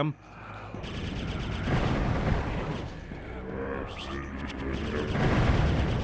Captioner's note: chanting